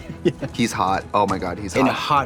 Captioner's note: Katya laughs